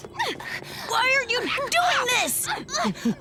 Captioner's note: grunting